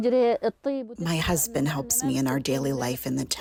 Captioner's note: through translator